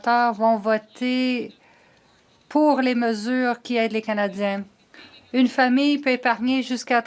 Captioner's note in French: voix de l'interprète